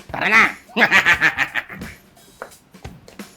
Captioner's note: laughing